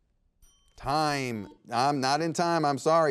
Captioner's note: buzzer beeps